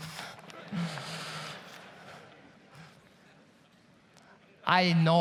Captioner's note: audience laughs